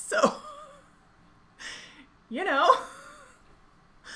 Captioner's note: laughing